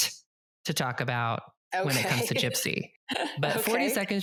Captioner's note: laughs